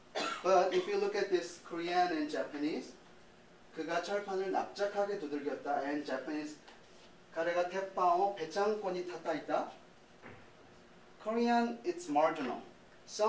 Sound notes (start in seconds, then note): 3.7 speaking in korean; 6.9 speaking in japanese